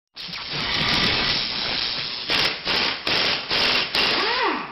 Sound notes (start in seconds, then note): 0.3 drilling sounds